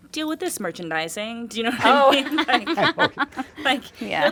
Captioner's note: group laughing